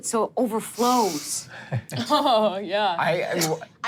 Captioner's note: group chuckles